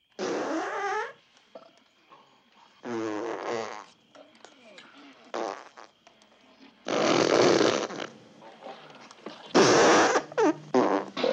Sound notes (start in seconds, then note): 0.1 pfft!; 2.8 pfft!; 5.2 pfft!; 6.8 pfffft!; 9.5 pfft!